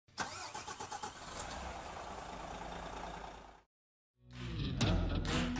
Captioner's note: large, loud engine starts